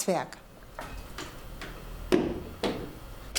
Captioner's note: clattering, then hammering